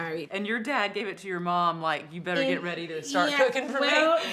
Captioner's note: laughs